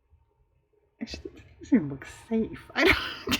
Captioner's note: laughs